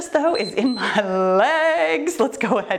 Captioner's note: timer beeps